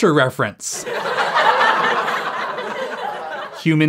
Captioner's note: laugh track